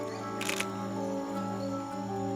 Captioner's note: camera clicks